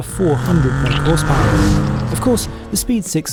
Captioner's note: engine revving